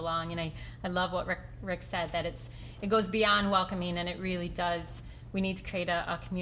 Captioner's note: none